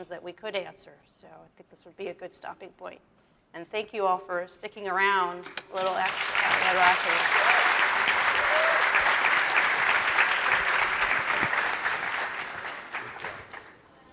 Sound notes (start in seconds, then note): 8.5 audience claps